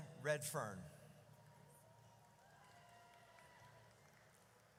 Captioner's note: audience cheers